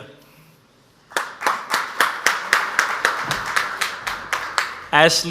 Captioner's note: audience applauds